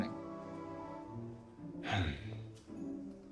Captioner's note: sighing